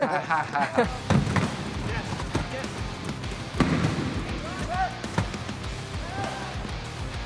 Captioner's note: group laughs; wheel chairs bang; intense rock music